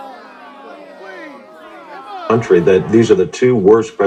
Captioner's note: groans at the border